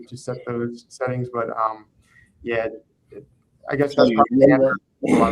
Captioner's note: faintly speaking